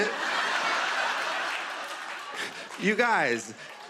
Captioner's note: laughter